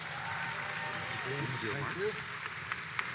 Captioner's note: audience applauds